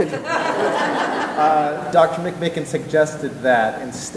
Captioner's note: laughter